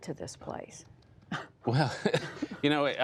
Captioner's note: laughter